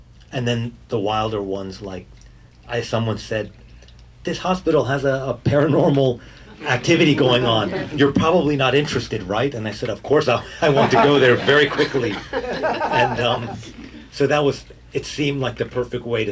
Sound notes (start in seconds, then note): 12.7 audience laughing